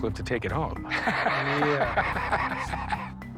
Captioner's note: laughs